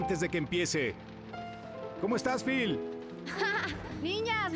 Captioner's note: chatter